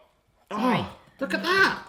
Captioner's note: grunts